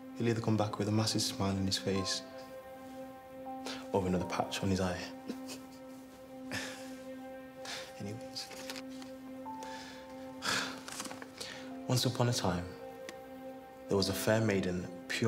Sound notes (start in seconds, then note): 5.2 laughs; 5.2 laughing; 9.6 exhales